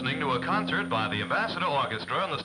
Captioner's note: radio Announcer